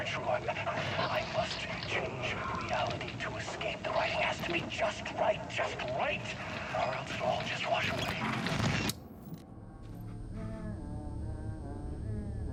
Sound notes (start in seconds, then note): 8.9 gun firing; 9.6 dramatic music